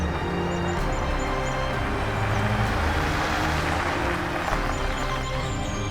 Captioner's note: car approaches